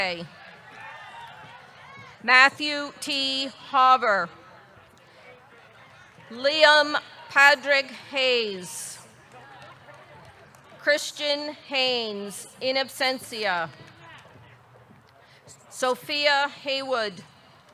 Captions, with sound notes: (audience cheering) Matthew T. Hauver. Liam Padraig Hayes. Christian Haynes, in absentia. Sophia Haywood.